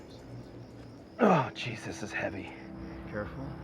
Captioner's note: grunts